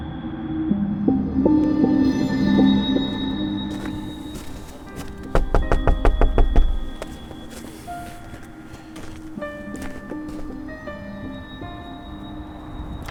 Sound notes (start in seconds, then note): 3.7 knocking